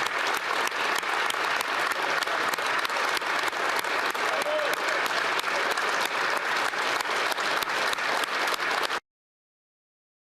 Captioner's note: applause